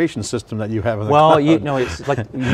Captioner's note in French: rire